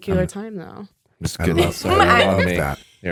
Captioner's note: laughs